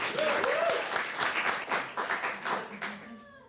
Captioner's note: cheering and applause